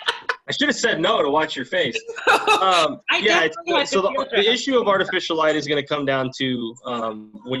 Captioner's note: laughter; laughter